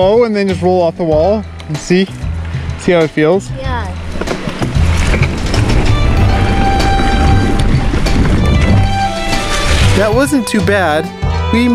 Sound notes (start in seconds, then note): 5.2 tires rumbling on the ground